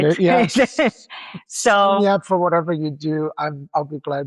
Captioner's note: laughs